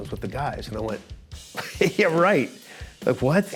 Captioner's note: chuckles